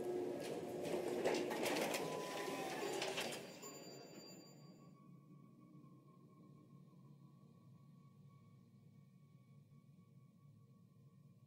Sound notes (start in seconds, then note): 0.8 door Opens